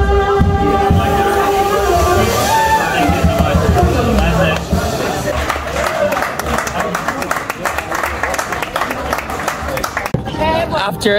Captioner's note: applause